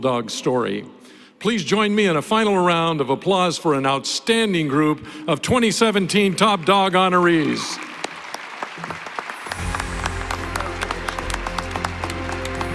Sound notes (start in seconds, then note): 8.2 applause